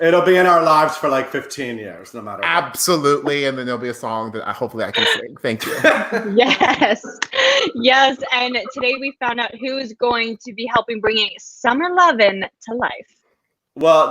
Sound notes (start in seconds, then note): 4.5 laughing